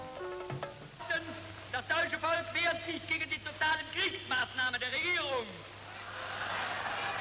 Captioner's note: Goebbels speaking in foreign language